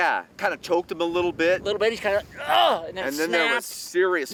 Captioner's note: groans